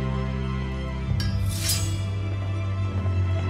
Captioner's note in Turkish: Kılıç Sesi